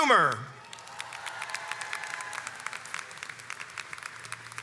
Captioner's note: crowd cheers and applauds